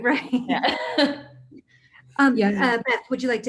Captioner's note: chuckles